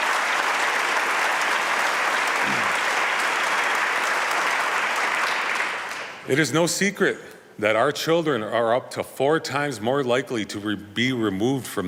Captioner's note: applause